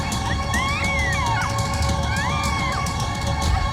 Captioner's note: marla screaming